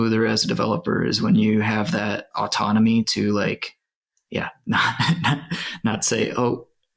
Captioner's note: sighs